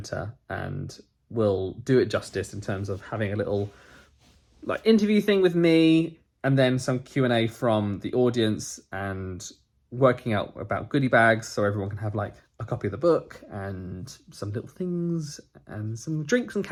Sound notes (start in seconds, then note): none